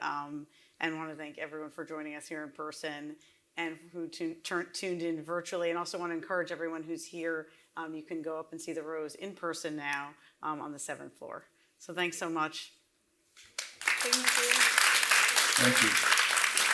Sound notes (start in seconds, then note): 13.5 audience applauds